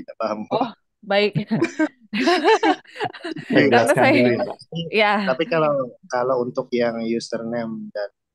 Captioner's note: laughs